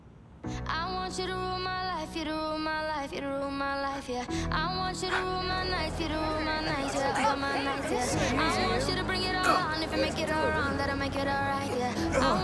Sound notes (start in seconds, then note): 3.0 all oohing